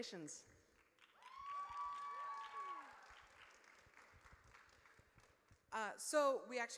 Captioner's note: audience cheers